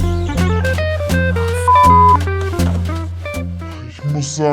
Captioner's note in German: piep